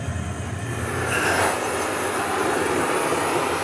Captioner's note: hissing